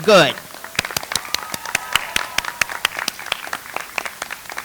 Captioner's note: audience applauds